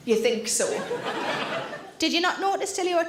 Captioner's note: audience laughing